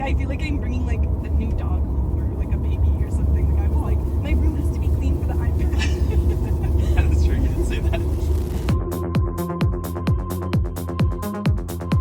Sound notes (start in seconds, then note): 5.7 laughter